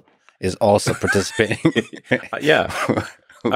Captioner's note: laughs